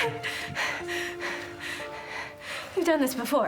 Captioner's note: panting